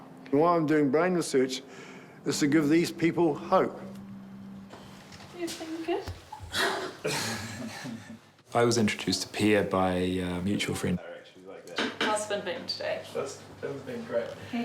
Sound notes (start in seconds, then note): 6.3 chuckles; 6.3 laughs